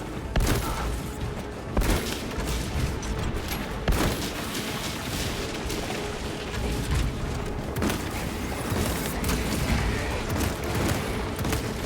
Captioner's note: gunfire